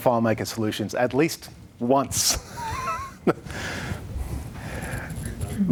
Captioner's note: chuckles